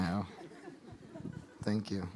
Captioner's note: audience laughing